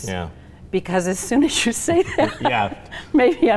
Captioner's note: laughter